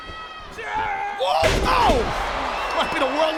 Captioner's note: Kane yells; body thuds